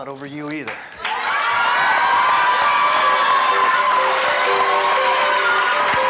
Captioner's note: cheering; light music